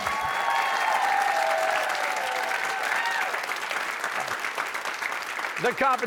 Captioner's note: cheers and applause